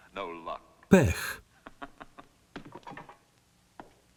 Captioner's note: laughing